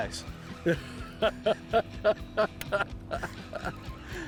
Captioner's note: laughs